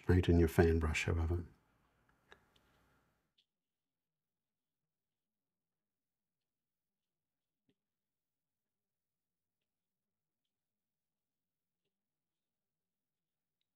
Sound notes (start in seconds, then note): 1.5 silence